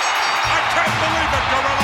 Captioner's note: ring bell clanging